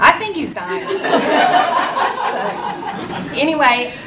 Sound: audience laughs

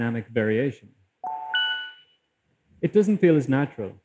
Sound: two dings with similar pitch

